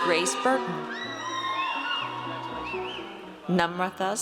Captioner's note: audience cheers